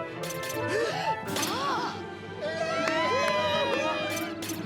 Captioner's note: applause